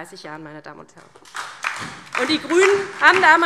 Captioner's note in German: Beifall DIE LINKE und SPD